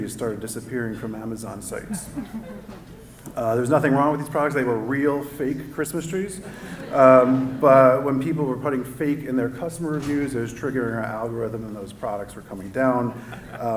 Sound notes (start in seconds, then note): 1.8 laughter